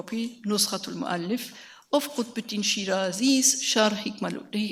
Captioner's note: speaks in a foreign language